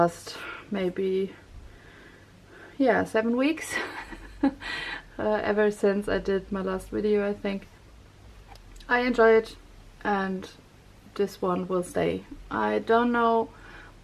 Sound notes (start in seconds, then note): 3.8 laughs